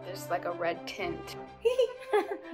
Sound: laughing

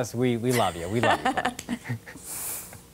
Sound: laughter

